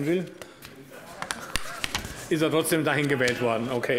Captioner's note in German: Heiterkeit des Abg